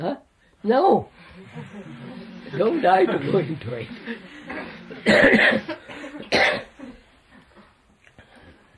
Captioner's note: laughter